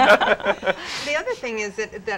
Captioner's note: laugh